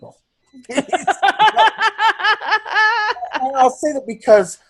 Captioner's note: laugh